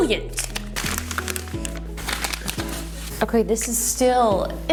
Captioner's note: plastic crinkles